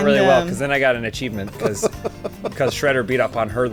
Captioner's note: laughs